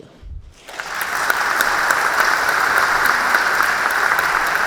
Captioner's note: crowd applauding